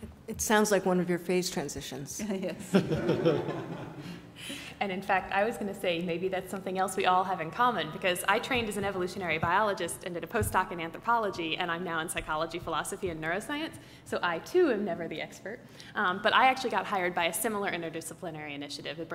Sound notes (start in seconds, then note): 2.6 laugh